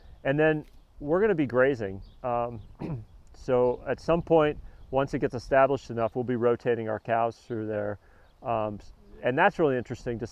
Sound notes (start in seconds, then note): 2.7 clears throat